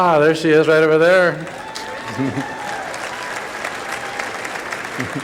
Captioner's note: applause